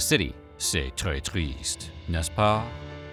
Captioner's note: speaking french